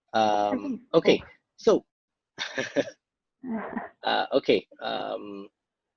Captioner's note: laughs